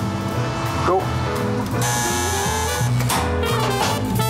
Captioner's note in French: sonnette; musique jazz